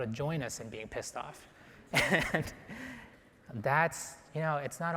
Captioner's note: laughs